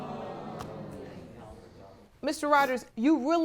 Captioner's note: audience groaning